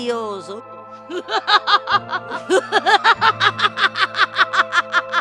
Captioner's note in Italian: risata